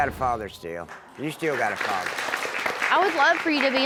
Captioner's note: audience applauds